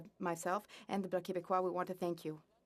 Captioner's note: speaking French